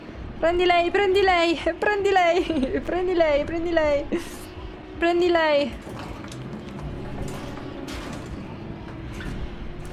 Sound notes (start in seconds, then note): 2.3 giggles